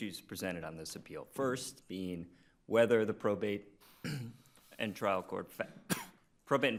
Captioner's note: coughing